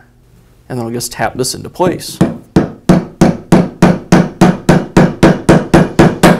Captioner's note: repetitive Hammering